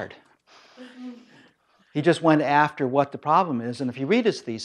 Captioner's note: laugh